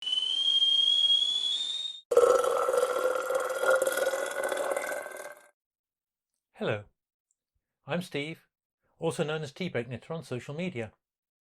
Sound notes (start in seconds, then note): 0.0 sound of kettle boiling and water pouring